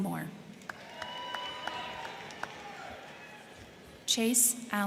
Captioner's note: crowd clapping; crowd cheering